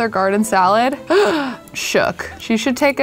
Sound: gasps

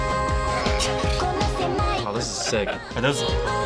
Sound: chuckling

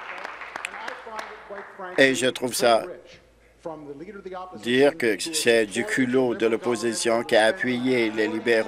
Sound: applause

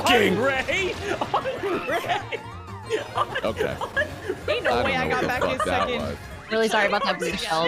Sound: chilled giggling

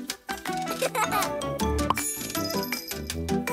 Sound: laughter

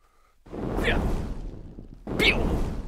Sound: fwwrr; pewww

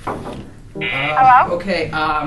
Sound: buzz

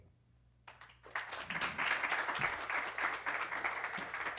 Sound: applause

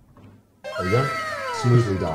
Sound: voiceover

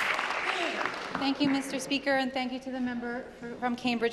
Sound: applause

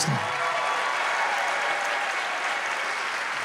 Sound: audience cheers and applause

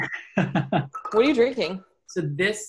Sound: laughs

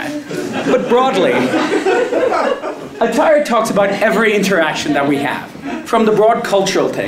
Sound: laugh

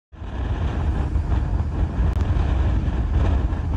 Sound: wind howling

